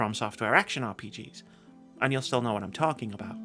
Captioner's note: breathe